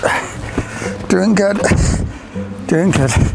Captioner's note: grunts; playful quiet music; grunts